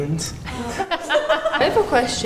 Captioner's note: laughter